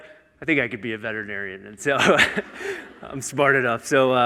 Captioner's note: chuckles